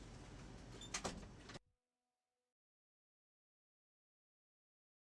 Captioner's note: door clicks